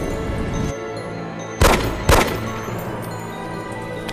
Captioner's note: gunshots